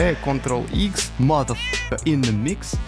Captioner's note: meeeeow